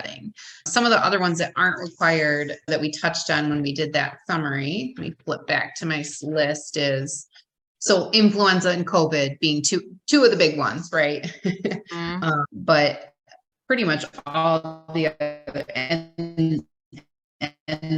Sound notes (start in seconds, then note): 13.7 audio distorts